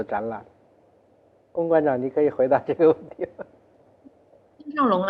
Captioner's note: laughs